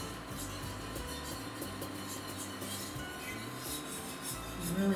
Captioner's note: scraping